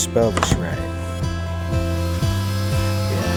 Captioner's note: router whirring